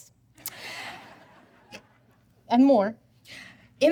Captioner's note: audience laughing